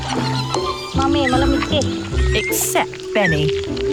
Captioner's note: in foreign language